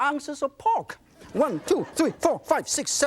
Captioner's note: audience laughs